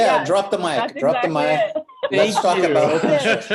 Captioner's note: laughter